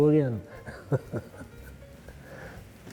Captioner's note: chuckles